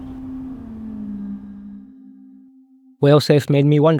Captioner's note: whale calls